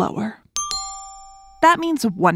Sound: ding dong

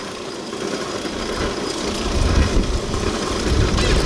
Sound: motor chugging

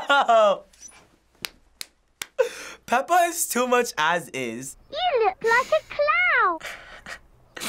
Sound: laughs; claps; chuckles

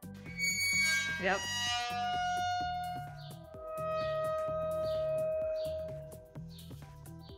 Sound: dry ice against metal sounds like music

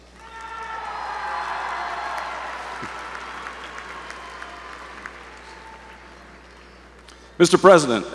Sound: applause

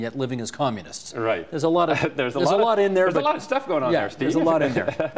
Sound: chuckling

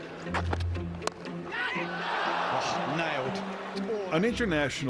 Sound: crowd cheers; men chanting

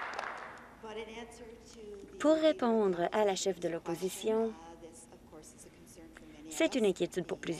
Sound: applause

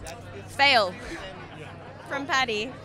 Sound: laughs

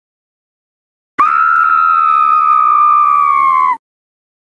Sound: scream

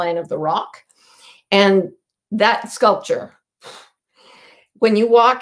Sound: exhales sharply

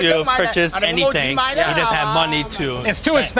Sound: speaking foreign language

